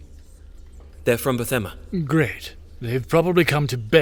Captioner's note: none